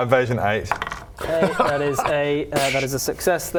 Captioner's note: smug chuckle